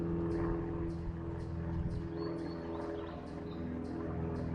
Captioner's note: airplane passing overhead